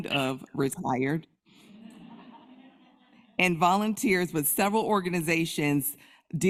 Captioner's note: crowd laughs